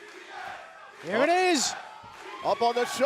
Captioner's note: fans chanting